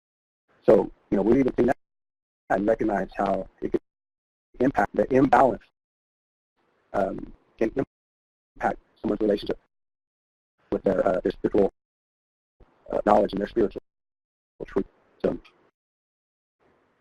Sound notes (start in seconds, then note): 10.4 audio drops out